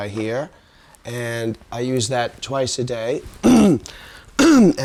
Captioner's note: coughing